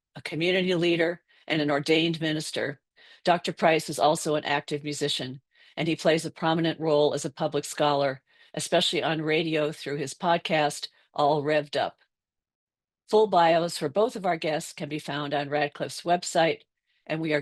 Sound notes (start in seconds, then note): none